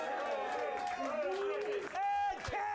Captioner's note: audience cheering